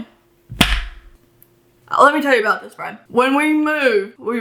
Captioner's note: slaps hand on desk